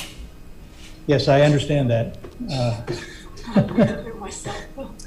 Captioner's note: laughs